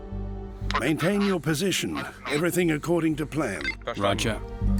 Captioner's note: man on radio